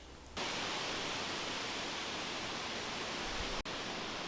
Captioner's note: wind blowing